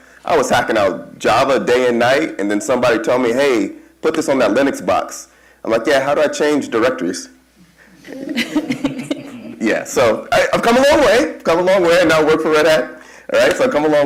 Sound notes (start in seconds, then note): 7.7 chuckle